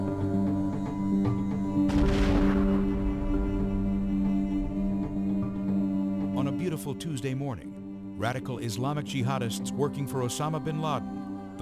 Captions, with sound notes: (explosions blasts) On a beautiful Tuesday morning, radical Islamic jihadists working for Osama bin Laden,